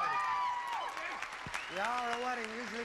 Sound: audience applauding

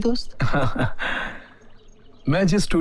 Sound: laughs

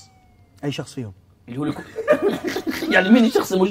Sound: laughing

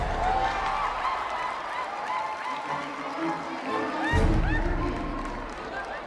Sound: crowd cheers and applauds

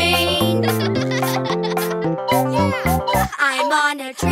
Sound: kids laugh

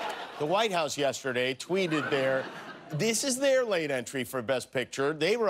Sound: laughter

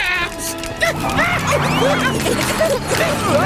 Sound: yelling

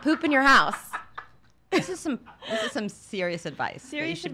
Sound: laughs

